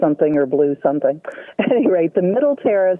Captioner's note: laughs